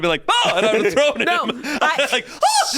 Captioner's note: laughs